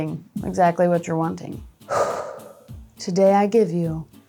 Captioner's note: exhales